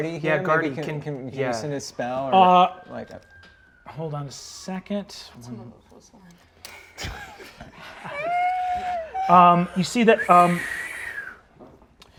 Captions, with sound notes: - Is Garthy here? Garthy, can you send a spell? - Hold on a second. (sirens wailing distantly) (players mimicking the sirens) You see that...